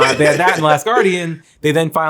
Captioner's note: Zack laughs